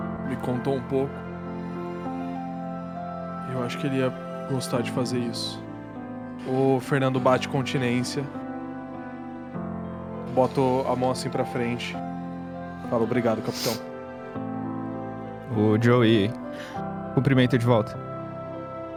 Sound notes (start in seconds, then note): none